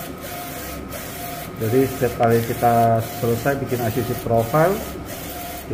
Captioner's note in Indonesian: suara mesin printer